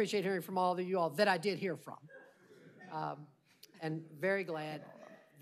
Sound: laughter

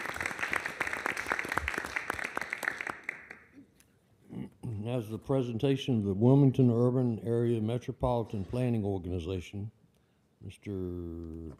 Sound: applause

